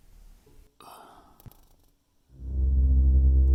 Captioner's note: stalker sighs; dark music